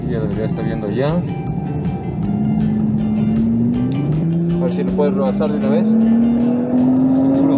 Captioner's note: engine roaring